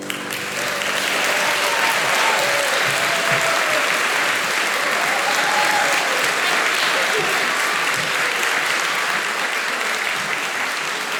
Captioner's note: applause